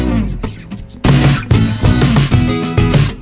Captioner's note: none